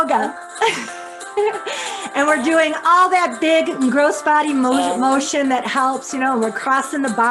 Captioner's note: laughs